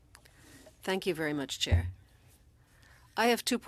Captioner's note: speaking french